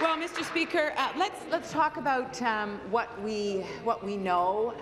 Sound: applause

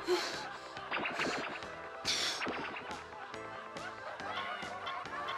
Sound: breathing heavily; laser gun shoots

